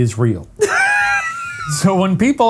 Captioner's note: Ryan laughs